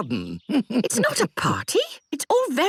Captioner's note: chuckles